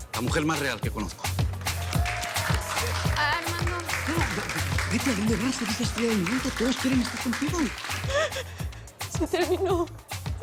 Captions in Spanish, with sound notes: LA MUJER MÁS REAL QUE CONOZCO. [Continúan los aplausos] - AH... ARMANDO. - NO... BETTY, ¿ADÓNDE VAS? ERES LA ESTRELLA DEL MOMENTO. TODOS QUIEREN ESTAR CONTIGO. - SE TERMINÓ.